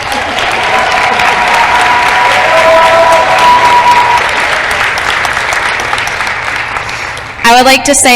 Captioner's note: applause